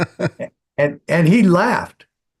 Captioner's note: laughing